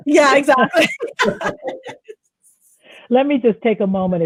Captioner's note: laughing